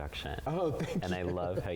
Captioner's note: chuckles